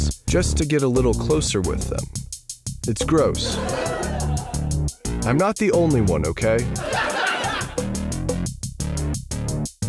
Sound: laugh track; laugh Track

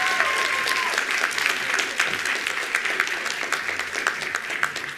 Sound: attendees applauding

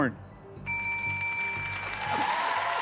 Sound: bell rings; cheers and applause

